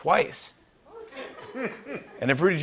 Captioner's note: laughter